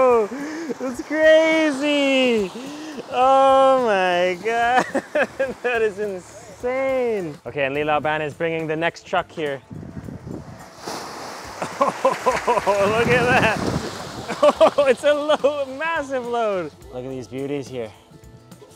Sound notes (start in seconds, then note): 4.4 laughs; 9.6 air whooshing; 10.5 water sloshing; 10.8 fish thudding; 14.2 laughs